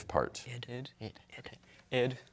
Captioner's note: all whispering